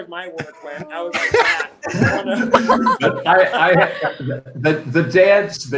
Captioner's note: participants laughing